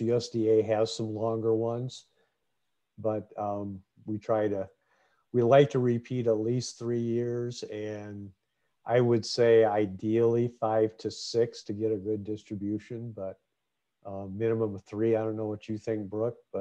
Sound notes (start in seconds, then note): none